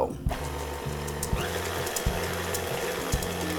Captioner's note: whirring